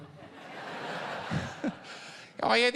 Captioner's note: laughter